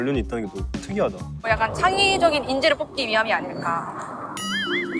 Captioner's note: mysterious sound appears Rumble rumble